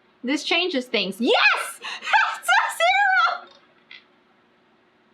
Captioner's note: laughs